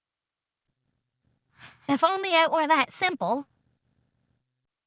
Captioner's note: sighs